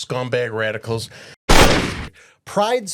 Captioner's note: sound of gunshot